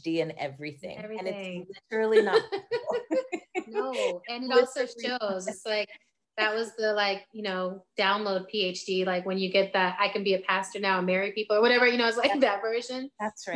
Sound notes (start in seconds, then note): 2.2 both laughing